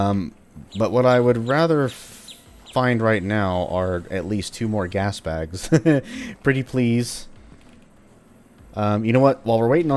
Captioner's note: chuckles